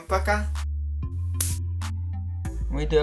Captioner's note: clap